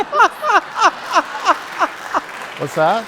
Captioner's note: laughter